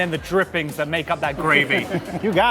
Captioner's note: laughter